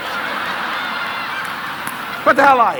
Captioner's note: audience laughing